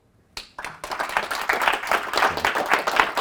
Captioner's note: applause